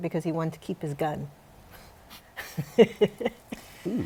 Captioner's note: laughs